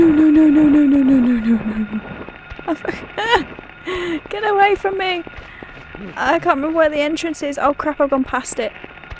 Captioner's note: whimpering; gasps